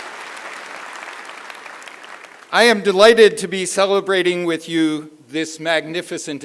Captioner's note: cheering; applause